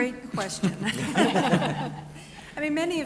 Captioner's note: laughter